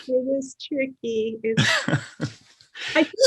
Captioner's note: laughs